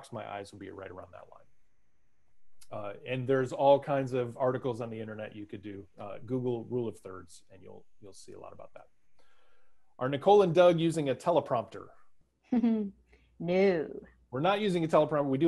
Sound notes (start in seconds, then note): 12.9 chuckles